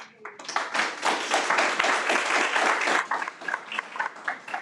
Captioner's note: audience applauds